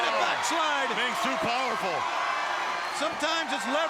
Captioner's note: audience cheering